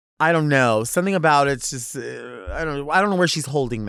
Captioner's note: none